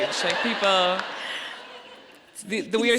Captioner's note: audience laughing